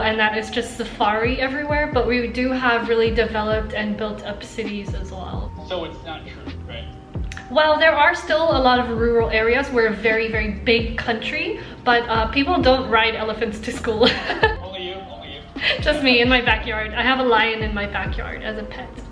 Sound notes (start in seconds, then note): 14.0 laughing